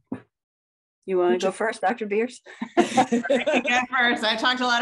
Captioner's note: laughs